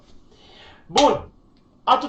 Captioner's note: clap